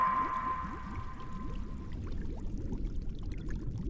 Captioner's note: bubbling